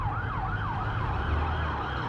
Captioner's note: sirens blaring